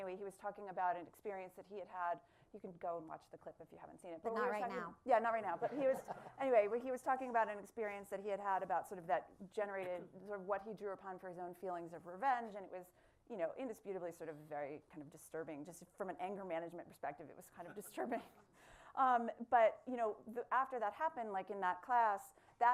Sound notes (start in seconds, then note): 5.6 laughter